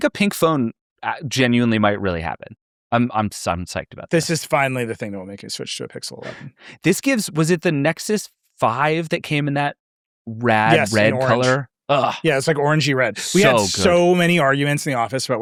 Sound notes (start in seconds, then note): 13.3 exclaiming in amazement